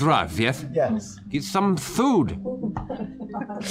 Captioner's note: slurred